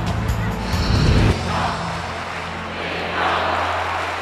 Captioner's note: crowd chants